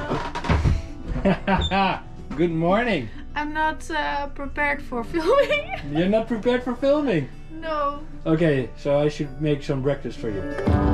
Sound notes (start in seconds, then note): 1.1 he laughs; 5.2 she giggles